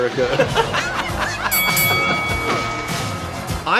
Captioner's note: ding, ding